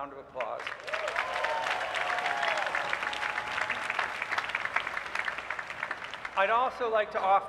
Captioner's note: applause